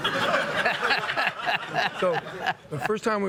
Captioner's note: laughing